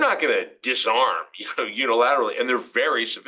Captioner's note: laugh